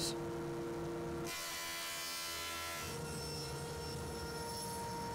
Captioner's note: planer buzzes